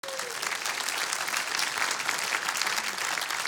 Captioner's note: audience clapping